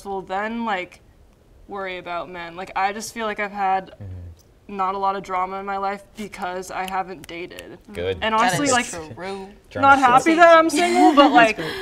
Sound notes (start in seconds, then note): 6.7 clicking fingers